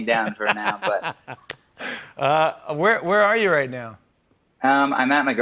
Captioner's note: laughs